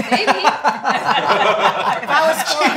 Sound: all laughing

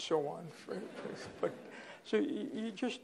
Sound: laughter

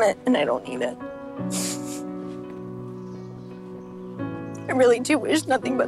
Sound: sniffles

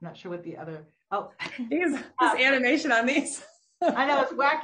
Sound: laughs

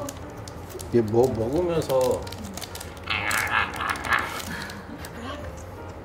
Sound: Mimics Suri's growls

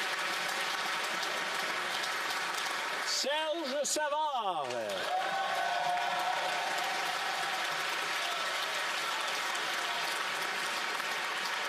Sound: applause

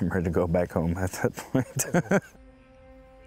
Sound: laughs

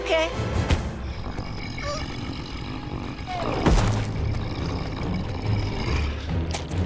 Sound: growling

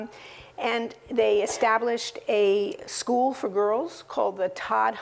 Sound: cough

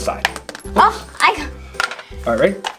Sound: exasperated noises

